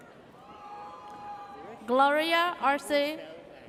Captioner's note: audience cheers